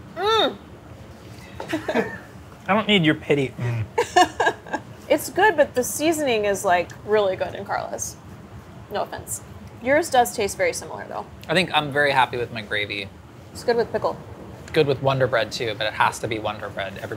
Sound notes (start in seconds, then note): 1.5 both laughing